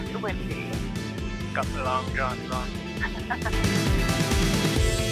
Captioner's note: laughs